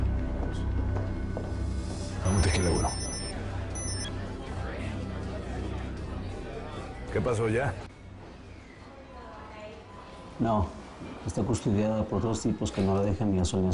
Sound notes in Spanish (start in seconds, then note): 4.2 Bullicio; 4.2 Suena el celular